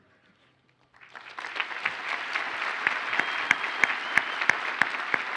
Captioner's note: audience applauds